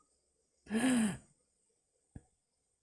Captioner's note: gasps